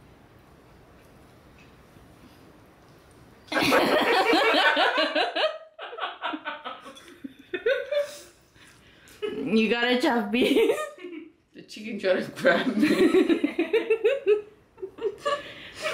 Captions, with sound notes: You got a tough piece. The chicken tried to grab me. [Laughter]